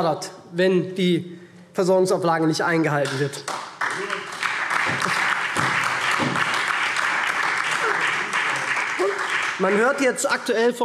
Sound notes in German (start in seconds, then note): 3.0 Beifall SPD und DIE LINKE